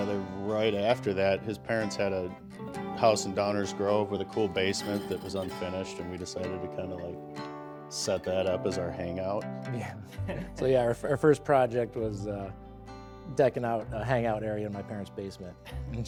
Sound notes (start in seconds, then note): 10.1 laughing